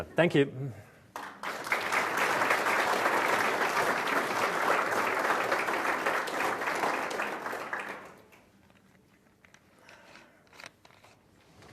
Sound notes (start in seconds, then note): 1.1 audience Applause